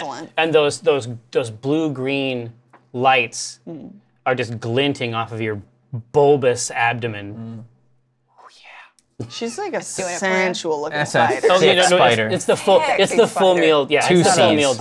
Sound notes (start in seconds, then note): 8.1 whispers